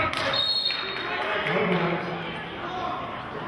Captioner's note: whistling